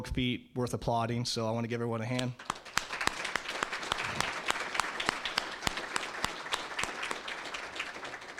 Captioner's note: applause